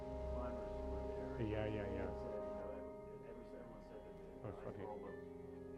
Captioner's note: muted office chatter